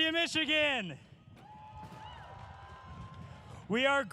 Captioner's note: audience cheers